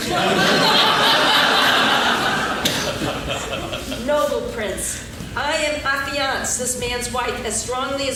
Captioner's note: laughing